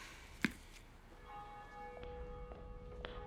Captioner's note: church bell ringing